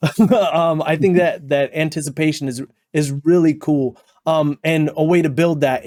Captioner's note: nervous shiver noise